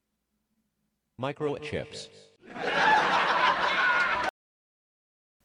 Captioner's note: laughter